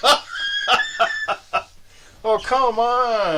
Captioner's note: laughing